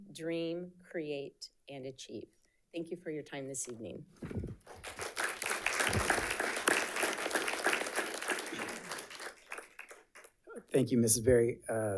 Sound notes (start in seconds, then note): 4.5 audience clapping